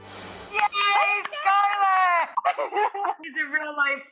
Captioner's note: laughing loudly